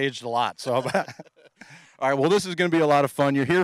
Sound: laughing

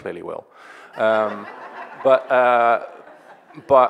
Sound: audience laughing

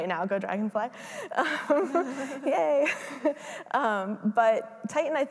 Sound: laughs

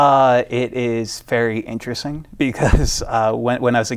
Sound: chuckles

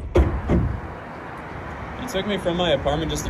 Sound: traffic whirs

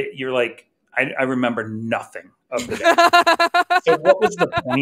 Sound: laughing

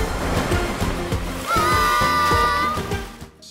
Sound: cheering

